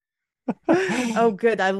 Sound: laughs

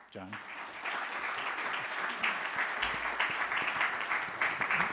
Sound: audience applauds

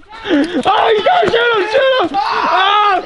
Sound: laughing; screaming

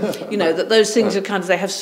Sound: chuckles

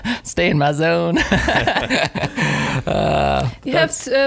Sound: laughing

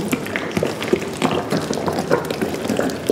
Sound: rippling noises

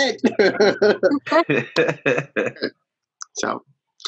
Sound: all laughing

